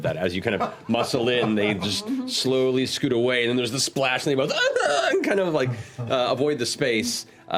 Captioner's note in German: aufgebrachtes Gekreische